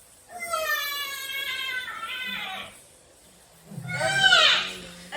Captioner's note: more loud crying from the baby